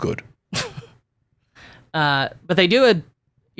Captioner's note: laughs